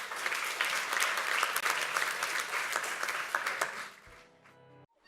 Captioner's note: audience applauds; slow music